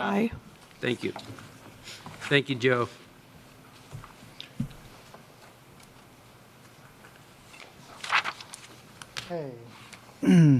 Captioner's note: A pause